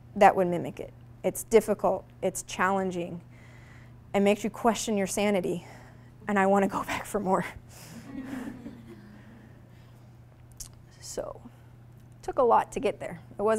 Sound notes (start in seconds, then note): 8.0 audience laughing